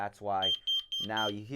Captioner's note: beeping